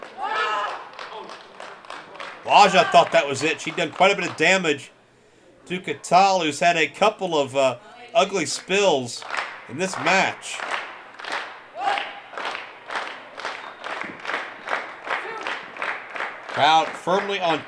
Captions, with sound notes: She'd done quite a bit of damage to Catal who's had a couple of ugly spills in this match. (fans clapping) Crowd firmly on team Ashur. Can't say I blame them,